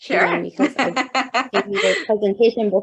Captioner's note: chuckling